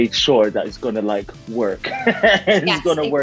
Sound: laughs

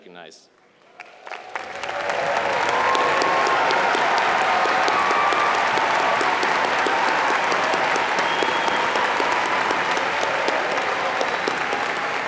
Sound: applause

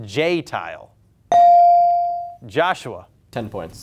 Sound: buzzer pings

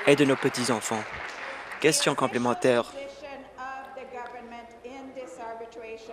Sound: applause

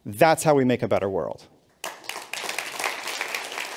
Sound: applause

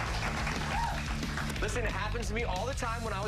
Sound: cheers and applause

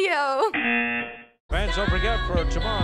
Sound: laughing; buzzer

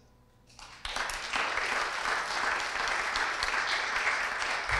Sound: audience applauds

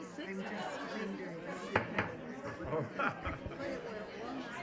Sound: people talking

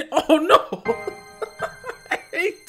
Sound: laughs

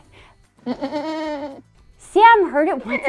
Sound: sheep bleating

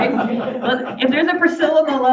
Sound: audience laughing

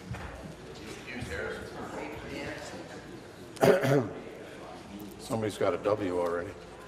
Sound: conversation din

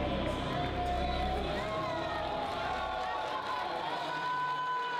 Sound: people cheering

